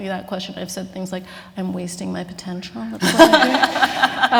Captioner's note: laughter